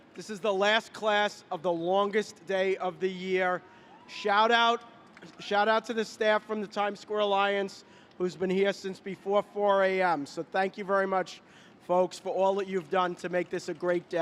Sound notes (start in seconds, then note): 5.1 applause